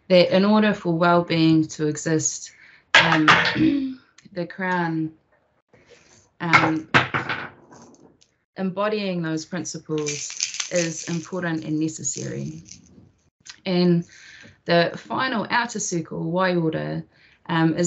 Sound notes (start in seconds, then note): 3.1 toy thuds; 3.8 clears throat; 6.6 toy thuds